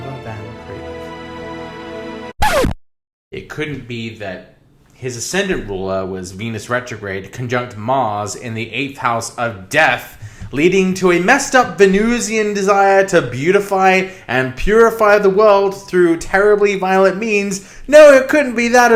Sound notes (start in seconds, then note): 2.4 record Scratching